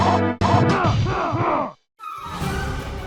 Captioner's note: funky music; game voice grunting; intense music